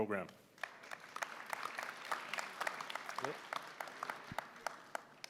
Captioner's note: applause